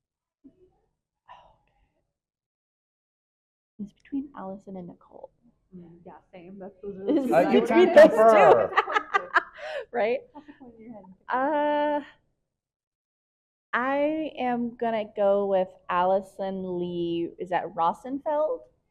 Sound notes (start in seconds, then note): 7.1 laughing; 10.7 faintly speaking